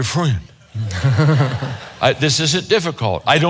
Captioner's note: audience laughs; chuckles